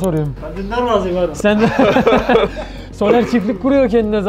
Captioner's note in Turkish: Gülüşmeler